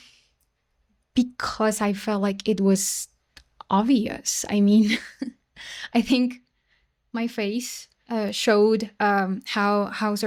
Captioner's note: laughter